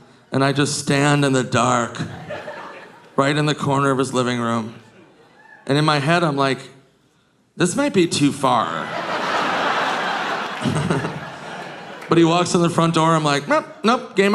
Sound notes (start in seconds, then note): 8.1 audience laughing; 10.5 Nick chuckles